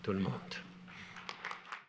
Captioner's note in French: Applaudissements